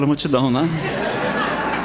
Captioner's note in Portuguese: Risadas